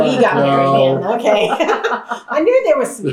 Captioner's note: laughter